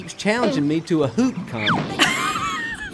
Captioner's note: whistle blows; laughs